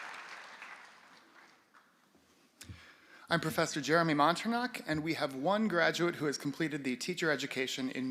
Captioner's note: applause